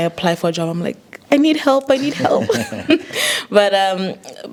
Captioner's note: all laughing